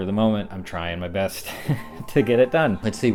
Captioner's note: laughs